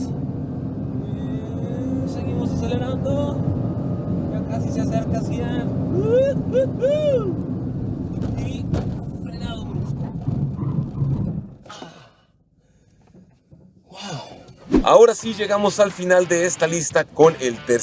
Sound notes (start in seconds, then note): 0.0 engine revving; 7.4 car breaking; 12.2 gasps